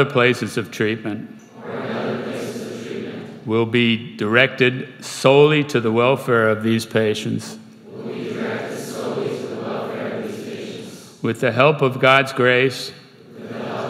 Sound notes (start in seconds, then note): 1.4 crowd; 7.8 crowd; 13.1 crowd